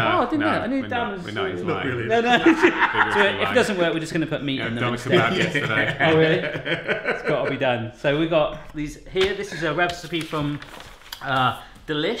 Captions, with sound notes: - No, no, we're not, we're not. He's lying. - Not really. - So if it doesn't work, we're just gonna put meat in them instead. - I had a kebab yesterday. - Oh really? (loud laughing) It's gotta be done. So, we've got these here. This is a recipe from Delish.